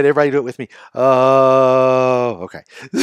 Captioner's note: groans